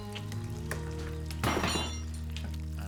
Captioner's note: metal clanks